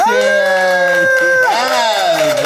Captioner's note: audience clapping